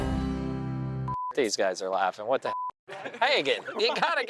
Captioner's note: beep